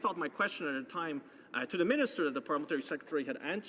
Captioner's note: speaking french